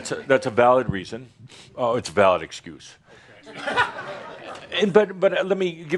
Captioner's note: chuckling